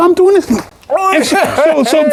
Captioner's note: kick flicking